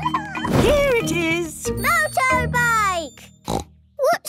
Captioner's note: snort